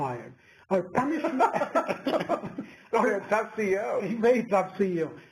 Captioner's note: laugh